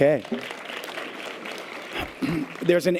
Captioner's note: audience applause